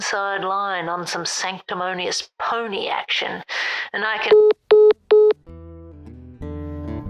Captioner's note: dial tone